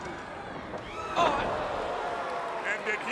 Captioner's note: crowd cheering